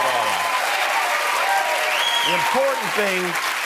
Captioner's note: cheers and applause